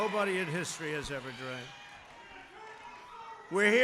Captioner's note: applause